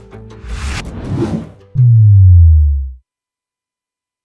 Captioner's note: swoosh